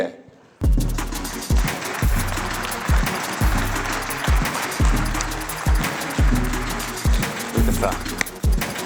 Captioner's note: applause